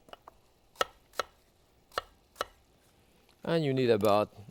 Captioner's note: knife tapping